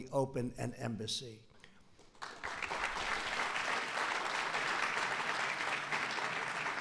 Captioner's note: applause